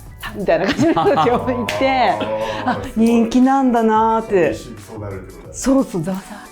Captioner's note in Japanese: 笑い